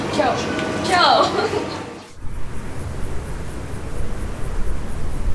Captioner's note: laughs